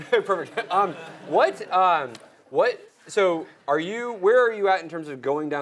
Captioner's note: laugh